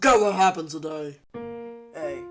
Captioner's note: pitched down